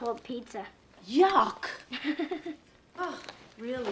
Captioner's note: laughs